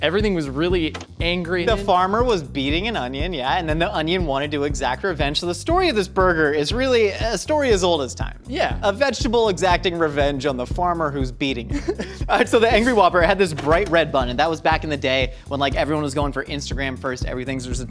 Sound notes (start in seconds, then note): 11.6 laughs